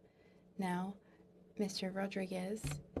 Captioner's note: speaking french